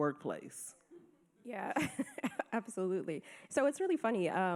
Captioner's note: giggles